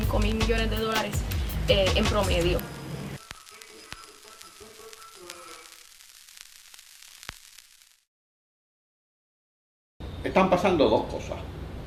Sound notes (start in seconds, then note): 3.3 static